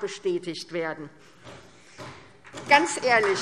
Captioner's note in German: Beifall SPD